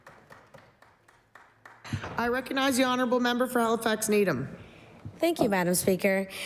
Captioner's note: applause